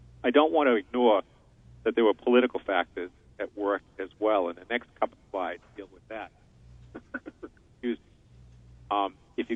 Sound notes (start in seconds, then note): 6.9 coughs